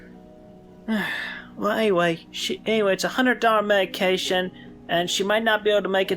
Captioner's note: sigh